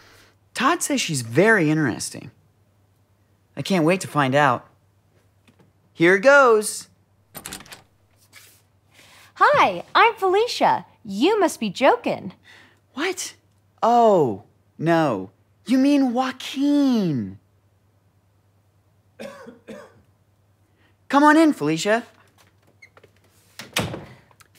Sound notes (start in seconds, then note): 19.2 audience member coughs